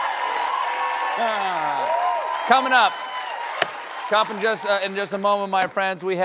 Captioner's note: cheers and applause